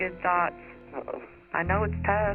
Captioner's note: on phone